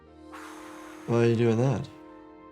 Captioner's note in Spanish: personaje soplando